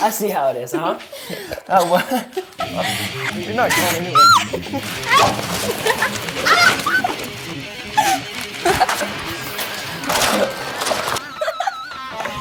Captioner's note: screaming and laughing